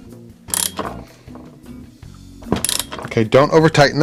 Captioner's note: socket wrench turns